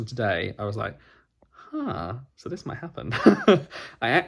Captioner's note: laughs